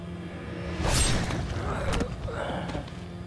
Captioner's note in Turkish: Müzik - Gerilim; Kılıç sesi